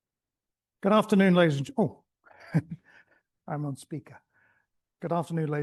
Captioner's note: chuckles